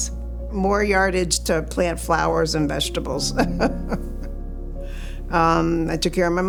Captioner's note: chuckles